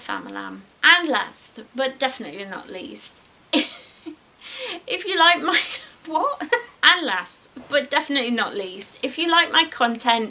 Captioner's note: giggles